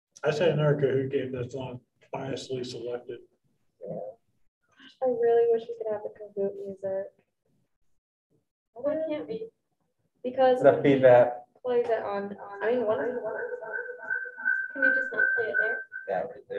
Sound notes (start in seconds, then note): 12.4 screeching echo sounds